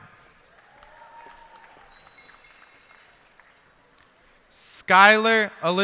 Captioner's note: cheers and applause